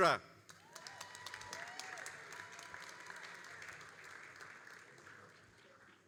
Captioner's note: all applauding and cheering